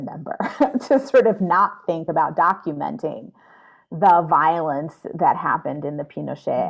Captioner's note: chuckles